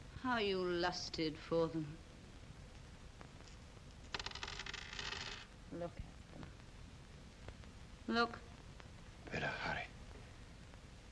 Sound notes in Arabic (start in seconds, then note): 4.1 صوت الياقوت يرن على الطاولة